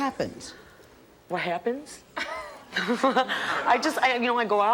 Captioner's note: laughs